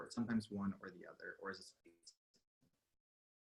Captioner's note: audio distorts